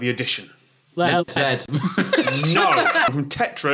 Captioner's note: everyone laughs